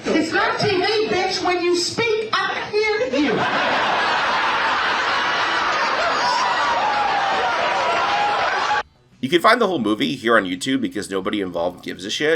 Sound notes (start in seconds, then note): 3.2 enthusiastic audience laughter and cheers